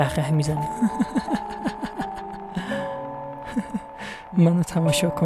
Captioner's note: laughs